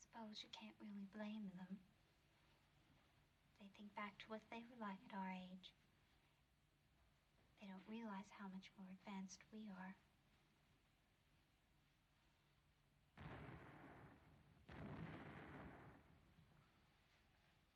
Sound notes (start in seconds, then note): 13.2 explosions